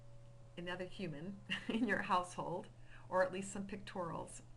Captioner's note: chuckling